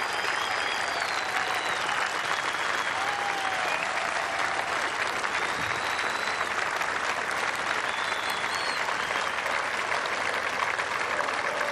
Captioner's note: applause